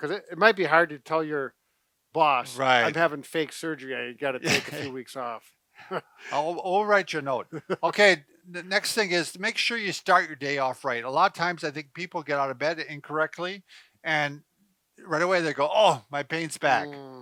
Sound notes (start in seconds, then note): 4.4 chuckles